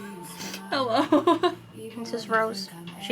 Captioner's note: laughing